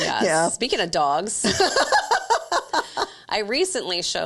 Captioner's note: laughing